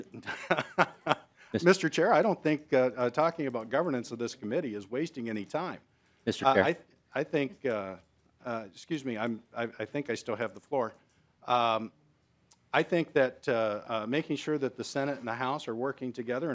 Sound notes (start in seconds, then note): 6.4 laughing